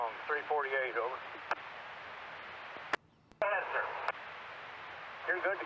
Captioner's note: radio chatter